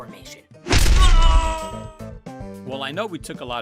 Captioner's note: lifering screams